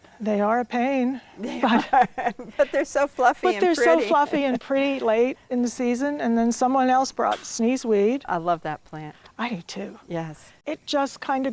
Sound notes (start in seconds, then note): 1.4 laughs